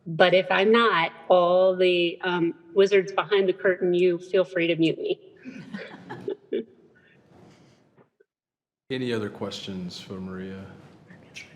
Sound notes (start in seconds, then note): 5.4 trustees and attendees chuckle